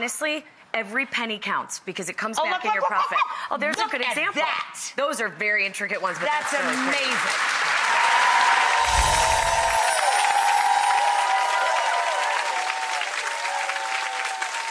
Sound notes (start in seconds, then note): 8.7 applause